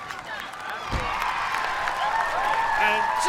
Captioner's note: cheers and applause